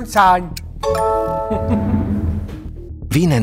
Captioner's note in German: Kichern